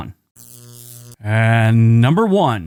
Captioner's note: static crackling